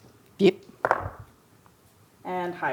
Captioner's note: dice rolling